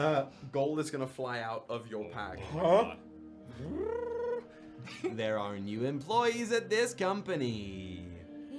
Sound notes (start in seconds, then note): 3.6 trilling sound